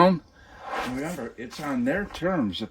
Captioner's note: air swooshes